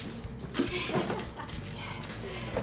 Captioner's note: laughs